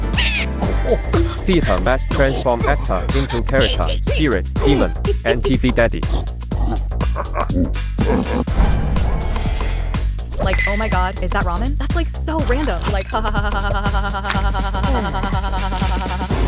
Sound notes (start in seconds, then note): 0.4 high grunt; 6.1 demonic grunts and laughs